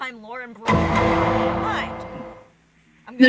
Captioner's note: law and order sound for language censoring